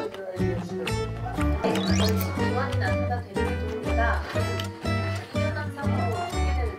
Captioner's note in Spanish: Solo TV y sonidos para comer